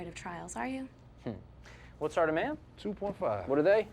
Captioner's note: scoffs